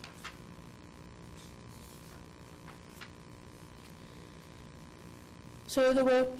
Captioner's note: none